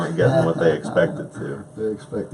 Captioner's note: laughs